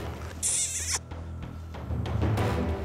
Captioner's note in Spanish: chasquea